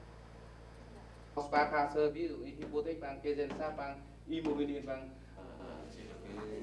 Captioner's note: speaking German